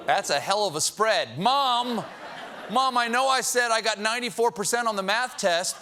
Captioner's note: audience reacts